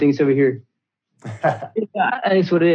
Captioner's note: laughs